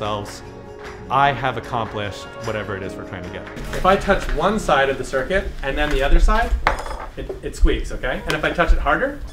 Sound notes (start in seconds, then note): 6.9 circuit squeaks